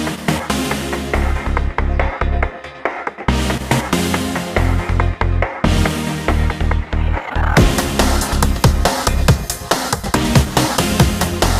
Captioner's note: outro, music, and clip of car crashing in intersection